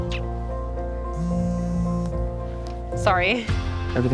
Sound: phone buzzing

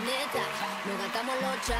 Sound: cheers and applause

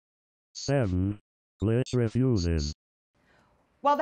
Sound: robot Voice

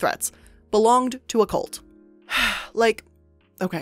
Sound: sighing

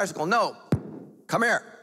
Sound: banging

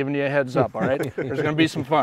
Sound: all laughing

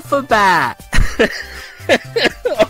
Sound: laughing

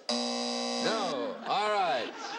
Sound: buzzing

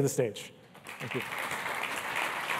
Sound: applause

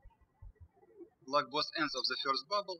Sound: birds chirping

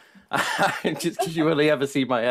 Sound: they laugh

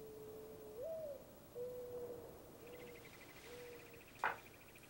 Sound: owl hooting

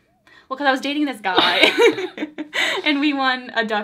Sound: both laugh

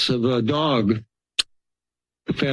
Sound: clicks tongue

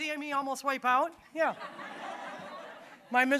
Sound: audience laughing

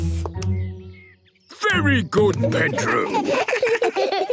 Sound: children giggle

